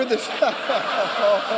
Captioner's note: laughter